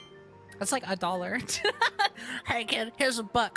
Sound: laughter

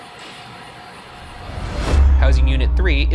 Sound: clank

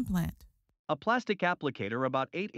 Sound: voiceover

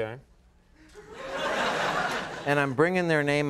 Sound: applause

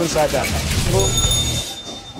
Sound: dinging

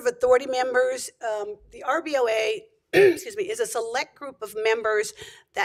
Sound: clears throat

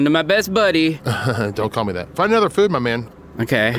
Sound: laughs

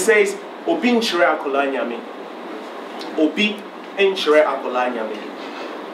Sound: speaking in foreign language

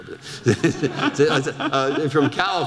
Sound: audience laughter

